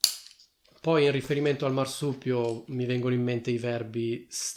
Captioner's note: Italian